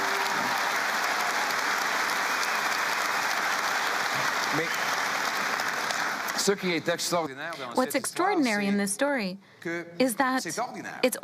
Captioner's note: cheering and APPLAUSE